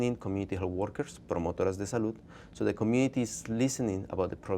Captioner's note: speaking spanish